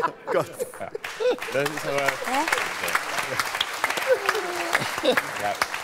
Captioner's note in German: Applaus